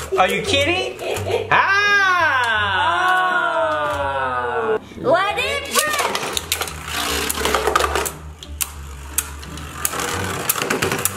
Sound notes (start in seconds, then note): 1.4 yells; 5.1 in Unison; 8.2 knocking noises